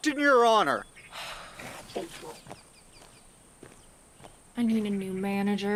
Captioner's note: Farrah sighs